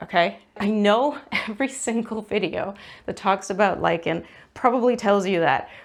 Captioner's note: laughs